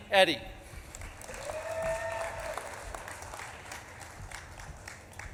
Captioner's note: audience claps and cheers